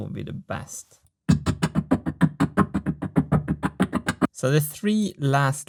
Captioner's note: pulsating sound from video when frames are browsed